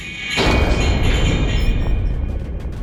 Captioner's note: thud!; a distant clattering; panel squeaking